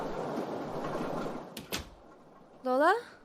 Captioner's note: door closes